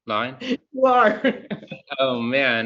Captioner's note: laughs